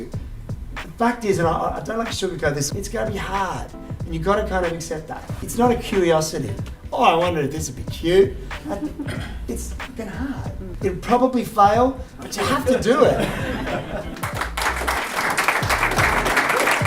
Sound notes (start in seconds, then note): 8.7 laughter; 12.4 laughter; 14.1 applause